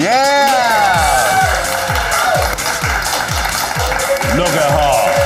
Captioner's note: audience clapping and cheering